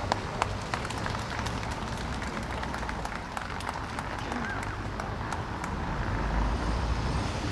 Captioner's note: applause